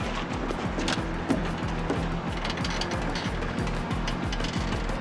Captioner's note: rustling, creaking